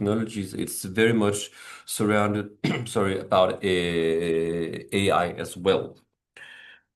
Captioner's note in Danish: coughs